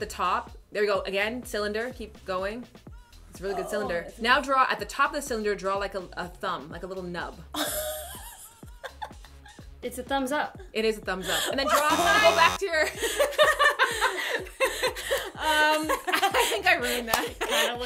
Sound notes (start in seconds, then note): 11.7 buzzer sounds; 12.7 laughter